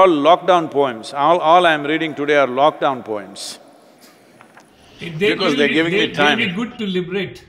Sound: laughs; Sadhguru laughs

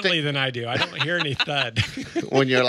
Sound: laughing

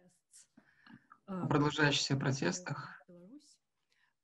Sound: speaking foreign language

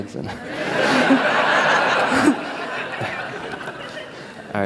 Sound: laughter

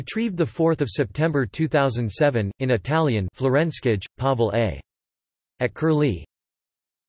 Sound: in Italian

